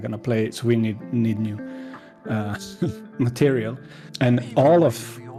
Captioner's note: laughs